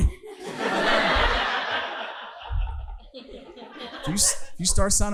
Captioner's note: audience laughing